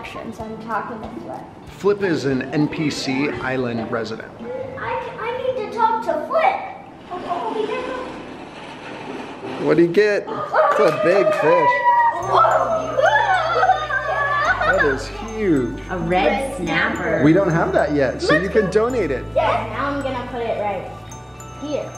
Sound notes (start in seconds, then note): 12.2 cheering